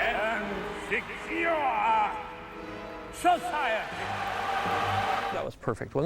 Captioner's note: applause